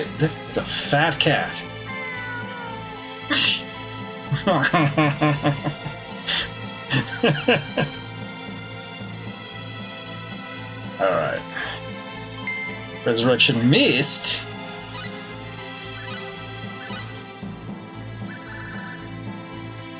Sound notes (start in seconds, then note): 1.4 cat meows; 3.3 laughs while attempting to imitate meow